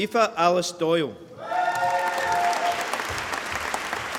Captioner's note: applause